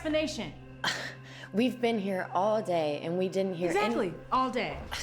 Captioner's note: scoffs